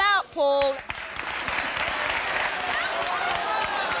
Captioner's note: applause